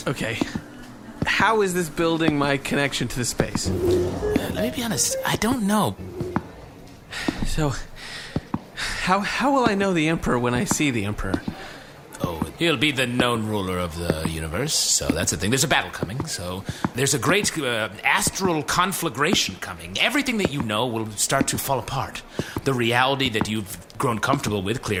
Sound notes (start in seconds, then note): 7.8 breathing heavily